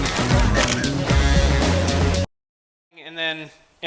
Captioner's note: camera shutter clicks